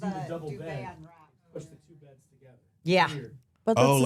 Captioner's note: cast members chattering